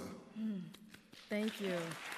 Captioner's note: applause